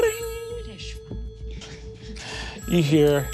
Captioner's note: whispered